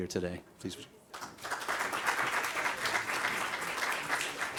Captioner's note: applause